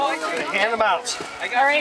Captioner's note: indistinct chatter